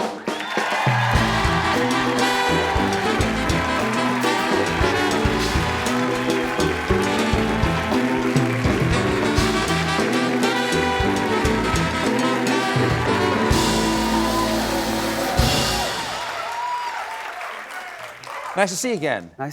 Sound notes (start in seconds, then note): 4.0 cheers and applause